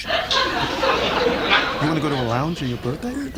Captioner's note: audience laughs